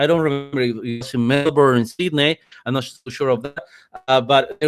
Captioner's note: distorted speech